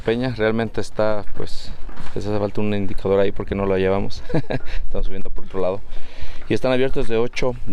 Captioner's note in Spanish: risas